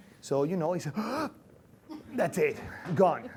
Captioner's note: gasping